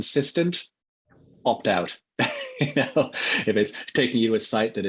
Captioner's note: laughs